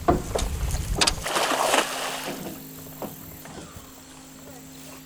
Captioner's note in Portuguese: sons de rede de pesca sendo lançada na água